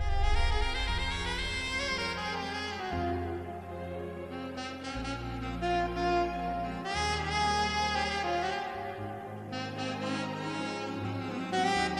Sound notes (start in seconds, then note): none